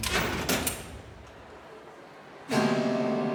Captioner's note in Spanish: sonido al abrir la puerta